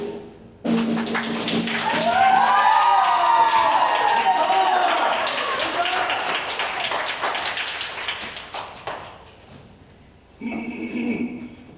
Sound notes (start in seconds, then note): 1.1 ensemble cheers; 10.7 Barbicane clears throat